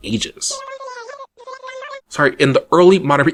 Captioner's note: Animalese sounds